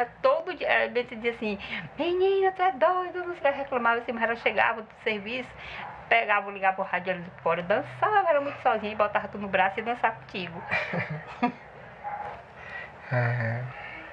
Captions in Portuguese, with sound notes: mas todo dia e Benta dizia assim: “menina, tu é doida” e reclamava mas ela chegava do serviço pegava e ligava o rádio ali fora e dançava era muito sozinha e botava tu no braço e ia dançar contigo [risadas]